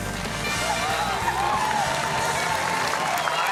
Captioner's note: cheering, applause